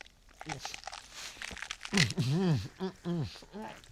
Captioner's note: struggling to swallow coin